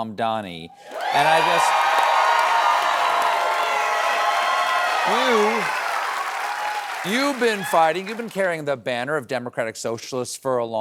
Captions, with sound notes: MAMDANI. [CHEERS AND APPLAUSE] YOU HAVE BEEN FIGHTING, YOU'VE BEEN CARRYING THE BANNER OF DEMOCRATIC SOCIALISTS FOR A